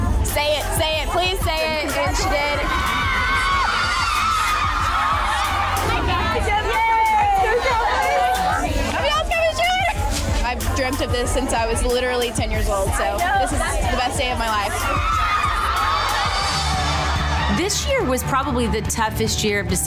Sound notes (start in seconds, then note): 2.6 upbeat music; 2.6 women cheering; 14.8 upbeat music; 14.8 women cheering